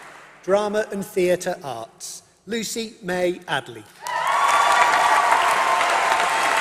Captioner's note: applause